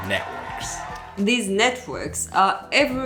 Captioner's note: applause